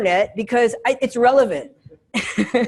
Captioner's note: laughs